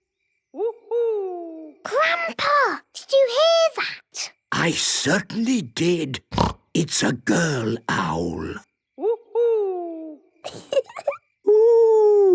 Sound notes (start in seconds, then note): 6.0 snorting; 10.4 Peppa giggling